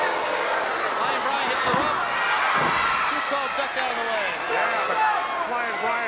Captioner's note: presenter speaking faintly off mic